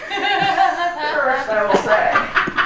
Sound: laughing

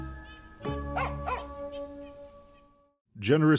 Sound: dog barking

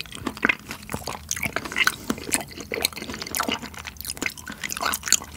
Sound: the chewy sound of grease is unreal~

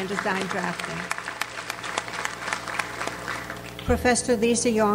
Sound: audience applauds

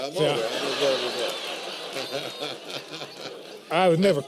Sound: laughter

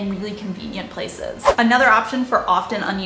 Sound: air whooshing

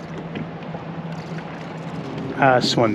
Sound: water lapping

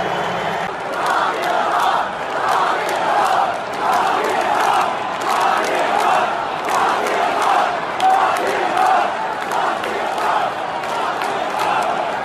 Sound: chanting

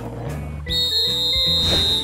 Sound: whistle blows

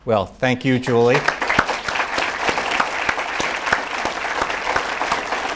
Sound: audience applauding

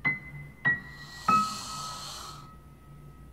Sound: exasperated sigh

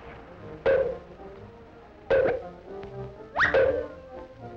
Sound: clanks; kazoo whistles

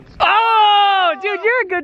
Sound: cheering

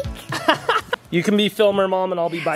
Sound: laughing

